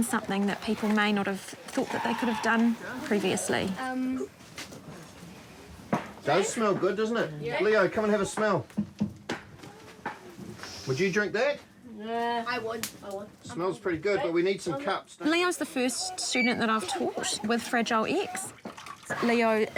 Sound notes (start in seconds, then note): 8.2 hammer bangs intermittently; 11.2 sniffs